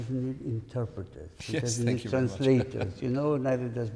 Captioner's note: chuckles